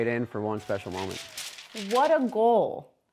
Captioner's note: paper crinkling